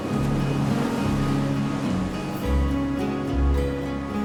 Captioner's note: bright music; waves crashing